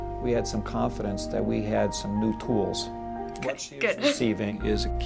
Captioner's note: laughs